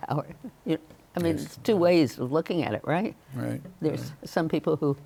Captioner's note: chuckles